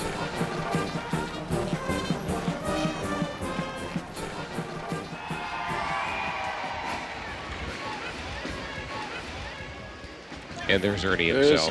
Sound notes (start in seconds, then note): 3.7 lively band music; 8.3 crowd cheering